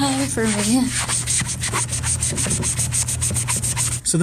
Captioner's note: sponge scrubbing